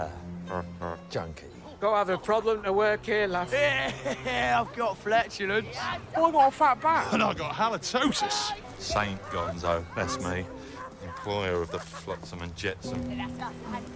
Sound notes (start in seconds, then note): 0.0 gasps; 3.6 laughs